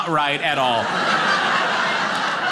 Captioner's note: audience laughing